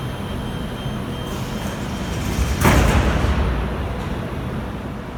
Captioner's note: closing doors